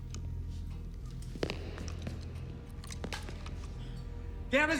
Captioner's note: footsteps tapping